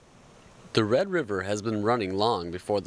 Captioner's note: voiceover